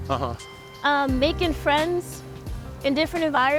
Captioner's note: none